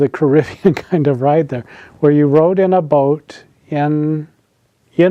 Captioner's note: laughs